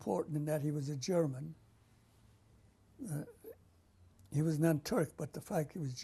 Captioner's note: pauses for 3 seconds